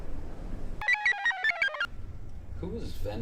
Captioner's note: computer chirps